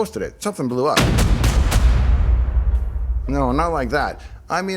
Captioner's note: boom